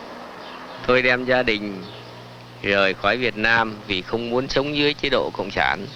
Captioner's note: speaking in Vietnamese